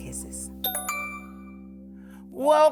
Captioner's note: bell tings